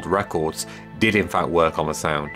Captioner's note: big Inhale